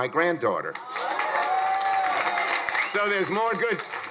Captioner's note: crowd applauding; crowd cheering